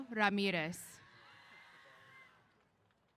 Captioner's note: cheers